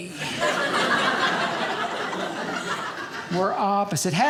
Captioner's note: audience laughing